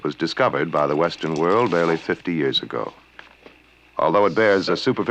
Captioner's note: coins rattling